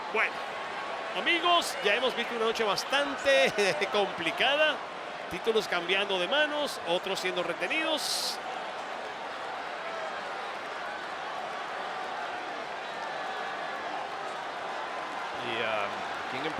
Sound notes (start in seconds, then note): 3.9 laugh; 9.2 applause